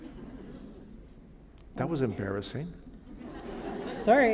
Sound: laughter

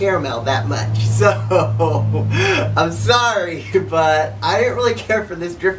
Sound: chukles

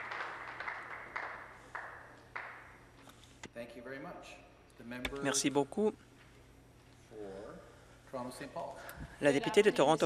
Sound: some Applause

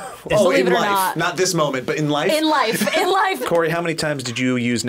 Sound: laughs

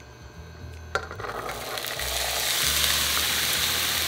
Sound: sizzling

